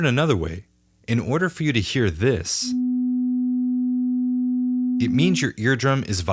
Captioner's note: rising tone